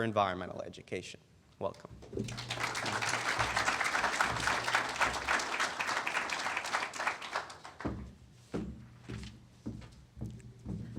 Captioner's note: applause